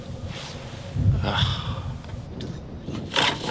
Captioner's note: sighs